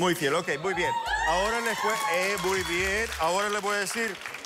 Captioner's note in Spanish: Aplausos; Exclamaciones